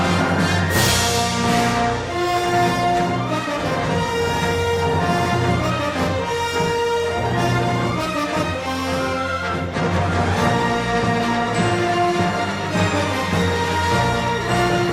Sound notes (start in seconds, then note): none